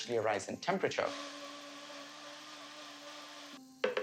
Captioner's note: whirring